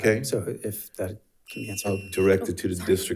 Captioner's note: alarm chimes